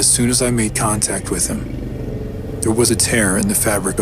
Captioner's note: low growl